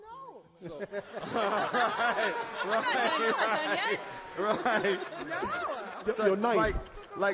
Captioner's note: all laugh